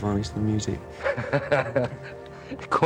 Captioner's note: laughter